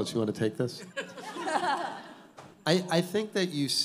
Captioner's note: all laughing